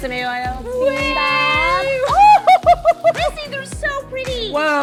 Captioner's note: laughs